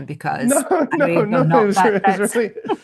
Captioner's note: laughs